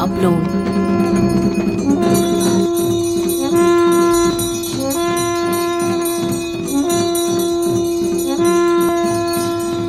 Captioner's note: bells jingling; soft drumming; trumphets blowing